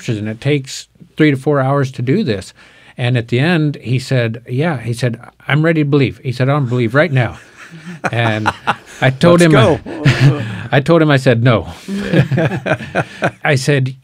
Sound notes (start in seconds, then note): 7.3 laughing